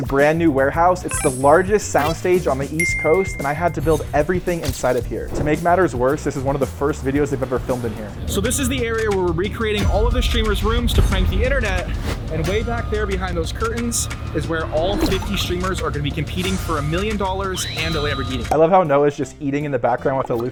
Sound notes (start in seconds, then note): 1.0 effect blips; 2.8 bell dings